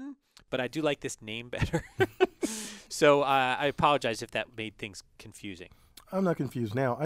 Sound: laugh

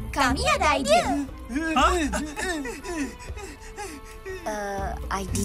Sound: Fang and Gopal gasp, whimper

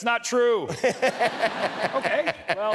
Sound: laughs

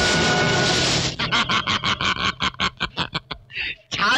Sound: laughing

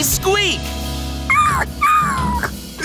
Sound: whimpering

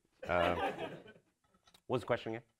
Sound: audience laughs

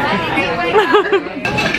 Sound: laughter

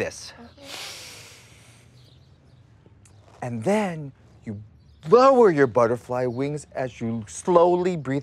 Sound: inhales

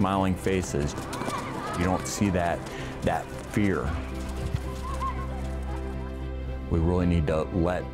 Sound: kids laughing and running

